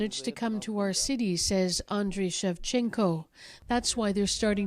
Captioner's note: speaking Foreign Language